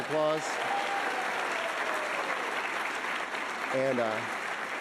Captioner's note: audience applauding